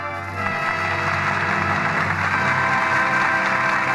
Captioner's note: audience applauding